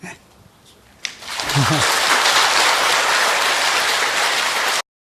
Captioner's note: applause